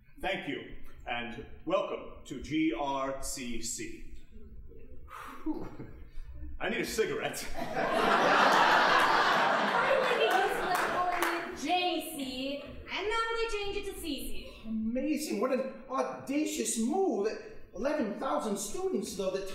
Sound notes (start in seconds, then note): 5.0 exhaling; 7.5 audience laughing